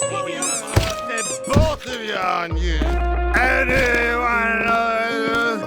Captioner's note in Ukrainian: П'яне белькотіння